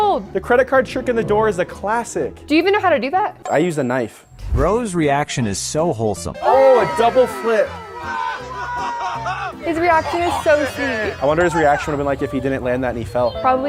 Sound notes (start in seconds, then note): 8.3 man cheering